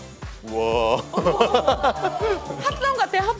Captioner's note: deep echo